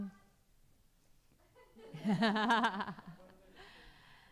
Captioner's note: laughter